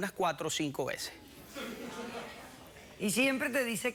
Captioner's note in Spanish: risas